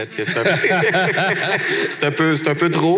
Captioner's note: laughs